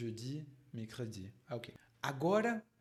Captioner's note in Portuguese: falando francês